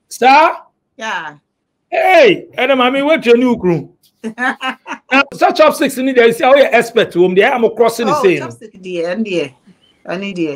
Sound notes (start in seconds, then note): 4.2 laughs